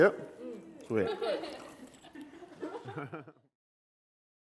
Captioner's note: all laugh